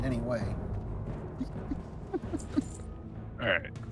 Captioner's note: laughter